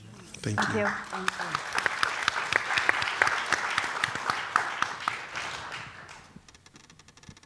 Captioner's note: applause